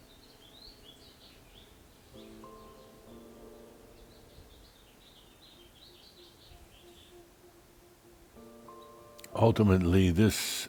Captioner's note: longer pause